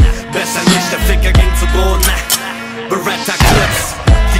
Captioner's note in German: Gunshot